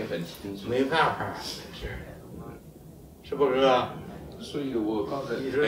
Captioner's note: speaks in Chinese language